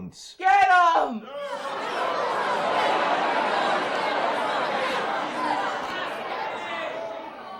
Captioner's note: crowd boos